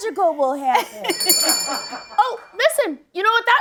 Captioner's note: bell rings